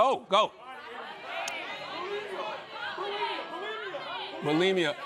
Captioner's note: shouting answers